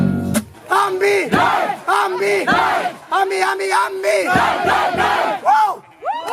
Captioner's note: people chanting the " " chorus